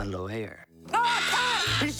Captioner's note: mascots yell; bird squawks